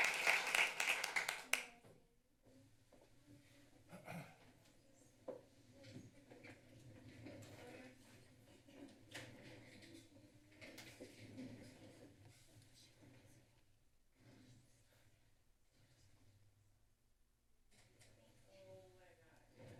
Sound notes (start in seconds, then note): 0.0 applause; 4.0 clears throat; 12.9 whispers